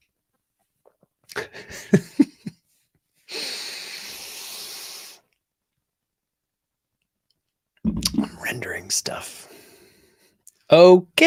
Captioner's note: laughs